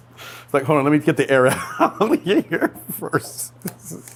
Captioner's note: laughs